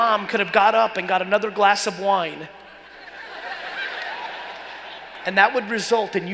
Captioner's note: laughing